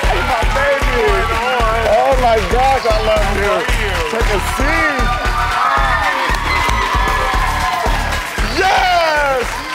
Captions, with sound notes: Hey baby. - What's going on? - Oh my gosh, I love you. - How are you? - Take a seat. (hip hop music) - Hi. (audience applauds) - Yes! Yes!